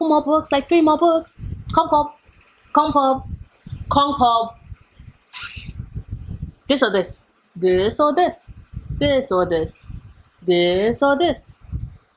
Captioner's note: hiss